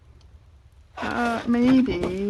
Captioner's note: laughs